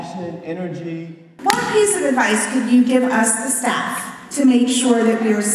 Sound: clap

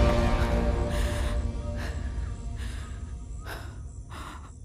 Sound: panting

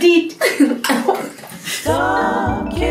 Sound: laughs; coughs

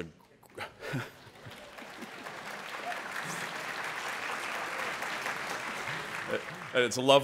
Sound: applause

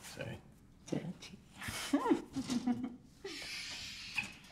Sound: laughs

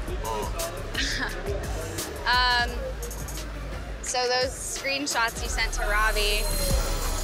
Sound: laughs

